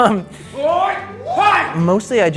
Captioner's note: yelling while fighting